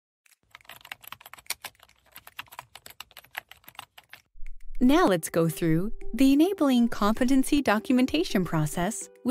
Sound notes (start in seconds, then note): 0.3 keyboard typing